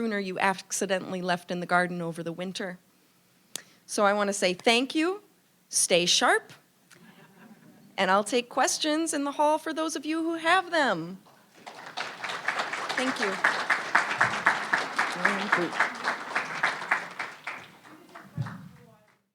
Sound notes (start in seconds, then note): 6.8 audience laughing; 11.6 audience applauding